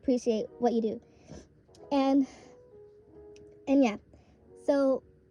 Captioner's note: sniffle